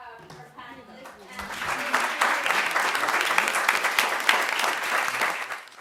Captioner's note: audience applauding